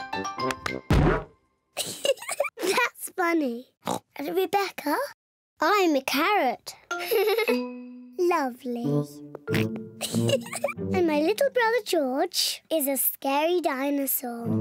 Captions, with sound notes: (THUD) (GIGGLES) That's funny! (OINKS) And Rebecca. I'm a carrot. (GIGGLES) -Lovely! -(GEORGE OINKS) (GIGGLES) And my little brother George is a scary dinosaur.